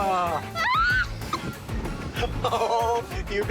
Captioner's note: screaming; laughs